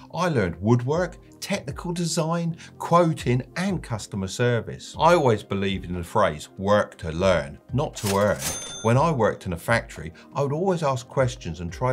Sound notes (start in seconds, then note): 7.9 money cha-chings